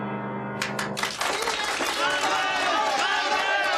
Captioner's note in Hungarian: kitörő tapsvihar, éljenzés